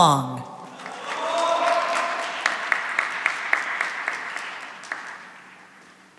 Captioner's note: cheering and applause